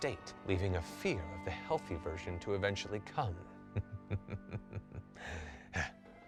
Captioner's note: evil cackle